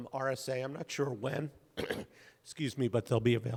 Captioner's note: clears throat